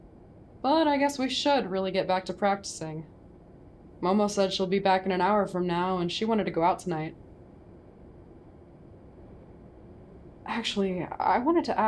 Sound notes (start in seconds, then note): none